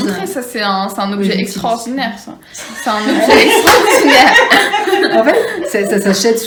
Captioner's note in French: Rires